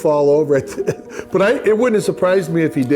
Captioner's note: chuckles